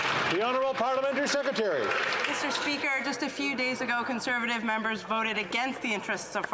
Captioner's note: some Applause